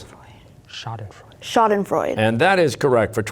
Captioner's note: whispering